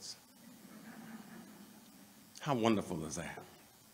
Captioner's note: laughter